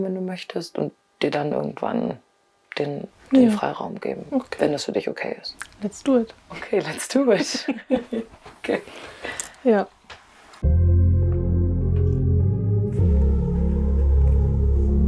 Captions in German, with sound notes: wenn du möchtest, und dir dann irgendwann den Freiraum geben. Ja. Okay. - Wenn das für dich okay ist. Let's do it. - Okay, let's do it. (Lachen) Okay. - Ja. (Nachdenkliche Musik)